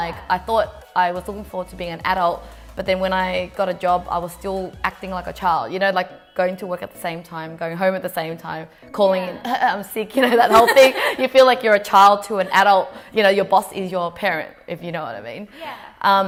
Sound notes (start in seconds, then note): 10.4 laughing; 10.4 coughs